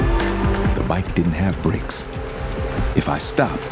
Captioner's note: voiceover